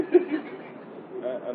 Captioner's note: Gülüşmeler